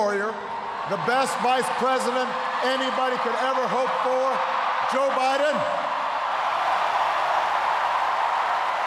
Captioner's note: cheers, applause